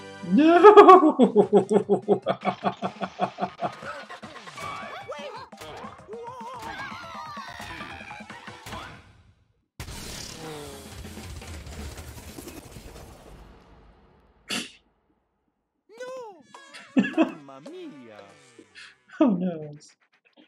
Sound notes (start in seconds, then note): 2.8 laughing; 4.4 all panicking; 14.3 laughs softly; 16.3 chuckling